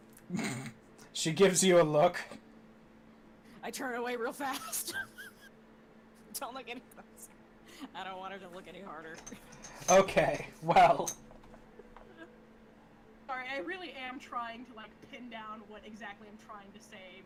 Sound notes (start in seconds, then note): 0.7 snorts; 5.1 wheezes